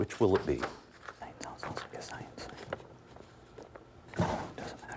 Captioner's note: whispering